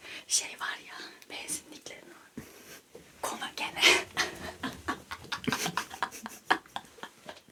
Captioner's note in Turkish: kahkaha